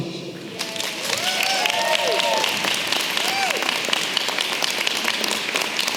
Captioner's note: audience clapping and cheering